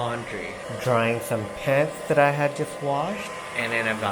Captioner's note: hairdryer